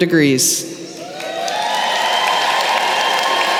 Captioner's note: applause